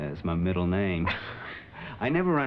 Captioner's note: chuckles; laughter